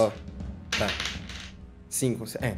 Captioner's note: dice sounds